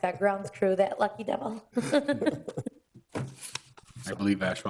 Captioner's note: laughs